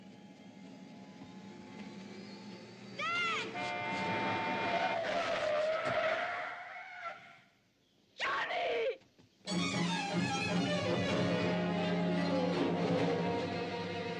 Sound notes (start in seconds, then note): 3.5 horn; 4.3 squealing tyres